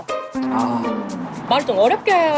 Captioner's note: sigh